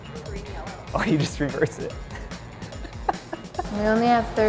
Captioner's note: laughs